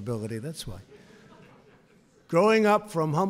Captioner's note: laughter